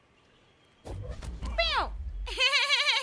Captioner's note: force noises; giggles